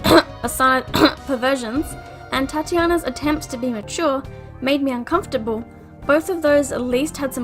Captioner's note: cough